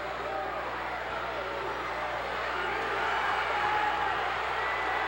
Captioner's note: crowd chants "Duggan"